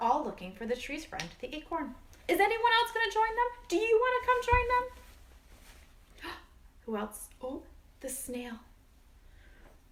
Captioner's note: gasp